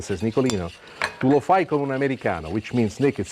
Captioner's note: speaks Italian